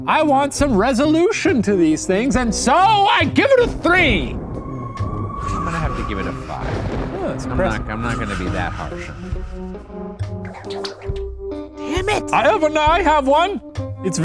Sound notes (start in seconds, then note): 4.8 eerie music; 10.6 paper whooshing